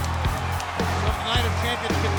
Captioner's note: crowd cheering; fun rock music